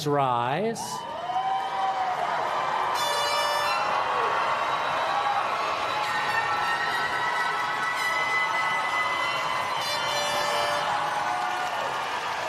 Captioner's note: applause